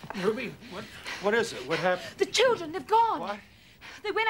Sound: none

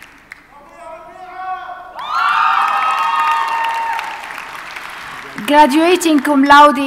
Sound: audience cheers

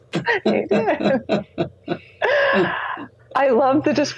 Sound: laughs

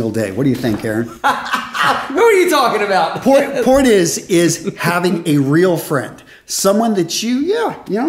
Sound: laughs

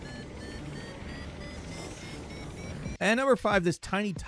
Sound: helicopter alarm beeps

